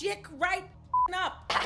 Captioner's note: beep